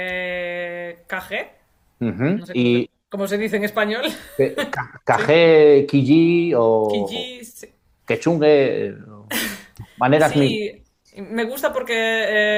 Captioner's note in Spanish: risas